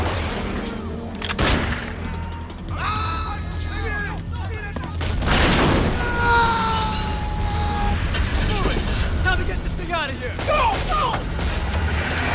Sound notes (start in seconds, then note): 0.1 tense music; 3.4 people scream; 5.0 explosion booms; 6.0 man screams; 11.1 engine revving; 12.1 gunshots popping